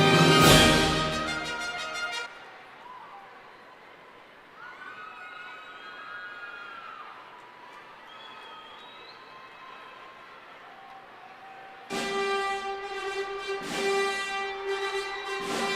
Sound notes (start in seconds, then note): 3.8 cheering